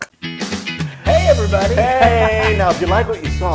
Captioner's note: laugh